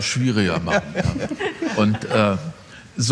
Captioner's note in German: Lachen